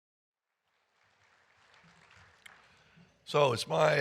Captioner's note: audience applauding